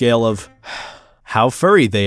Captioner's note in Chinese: 嘆氣